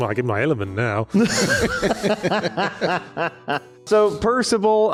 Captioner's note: laughs